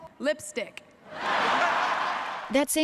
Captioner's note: laughter